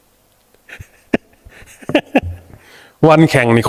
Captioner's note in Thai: เสียงหัวเราะ